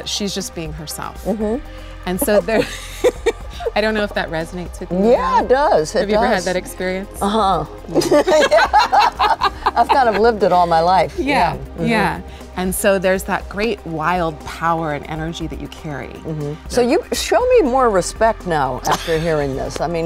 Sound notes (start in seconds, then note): 2.3 laughs; 7.9 laughs